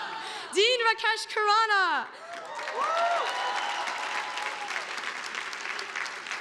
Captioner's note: audience applauding